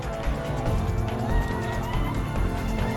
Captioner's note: screaming